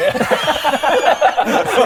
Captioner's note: victimised laugh